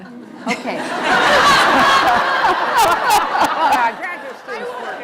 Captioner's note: laughter